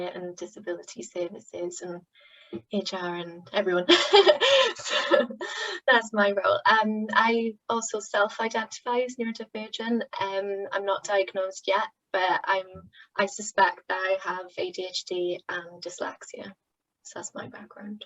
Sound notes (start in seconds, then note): 3.9 laughter